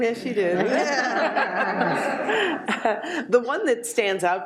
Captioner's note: audience laughs